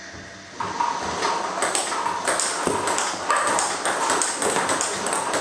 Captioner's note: ball ping pong hitting